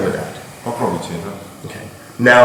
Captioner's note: speaking in a foreign language